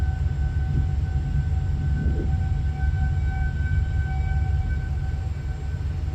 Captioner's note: siren wailing; tornado roaring